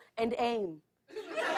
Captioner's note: laughter